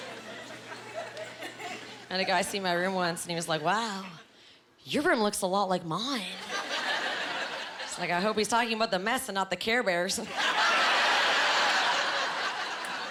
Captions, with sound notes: I had a guy see my room once, and he was like, "Wow, your room looks a lot like mine." It’s like, "I hope he’s talking about the mess and not the Care Bears." (Laughing)